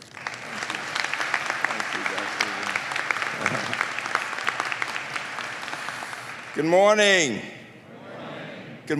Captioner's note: applause